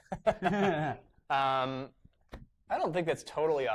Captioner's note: laughter